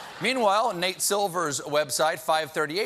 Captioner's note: laughter